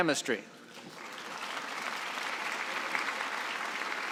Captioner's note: applause